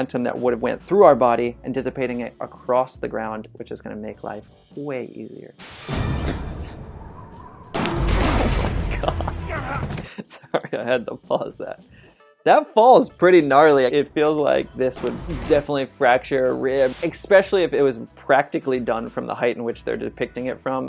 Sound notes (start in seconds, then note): 5.6 dramatic music; 5.6 bang